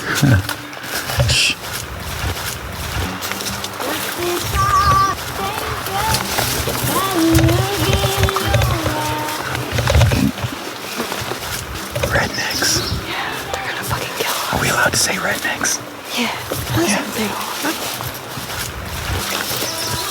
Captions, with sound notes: [laughs] Shh! [woman singing country music] - [whispering] Rednecks. - Yeah, they're gonna fucking kill us. Are we allowed to say rednecks? Yeah, that's what they are.